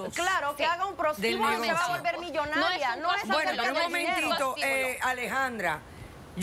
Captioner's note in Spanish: Hablan al unísono